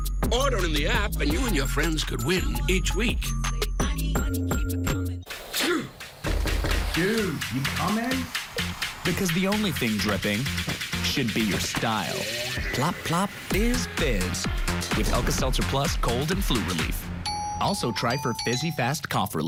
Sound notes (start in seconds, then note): 4.4 door knocking; 5.5 coughing/sneezing